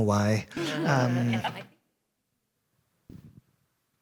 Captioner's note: laughter